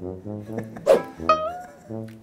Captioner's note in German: Boing